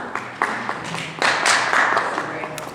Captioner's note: applause